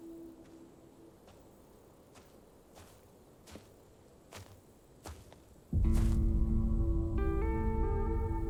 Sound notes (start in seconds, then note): 1.2 footsteps